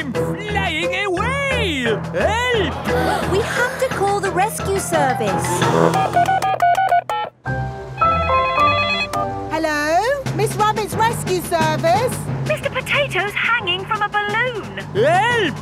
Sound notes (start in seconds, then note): 6.3 beeping; 8.1 phone ringing